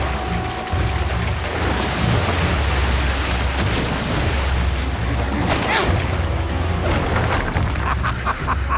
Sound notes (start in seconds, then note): 5.0 grunting; 7.4 laughing